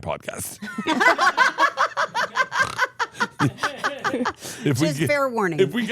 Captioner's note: laugh